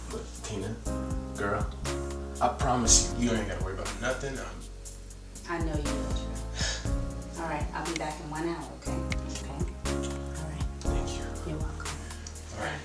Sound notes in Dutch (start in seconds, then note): 6.6 Drew hijgt